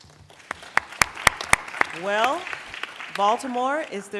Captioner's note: applause